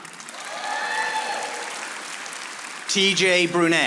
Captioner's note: audience applauding